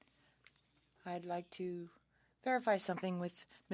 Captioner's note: speaking French